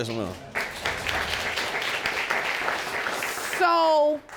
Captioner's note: audience applauds